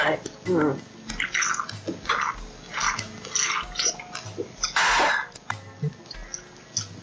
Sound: opens can; gulping

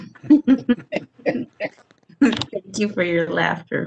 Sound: light laughter

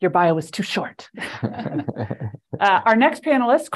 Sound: laughter

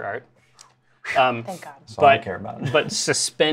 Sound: whew

